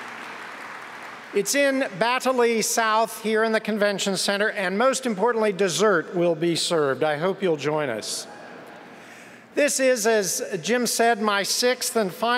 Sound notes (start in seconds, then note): 0.0 applause